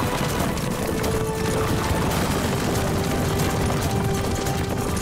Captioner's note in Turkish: At nalı sesleri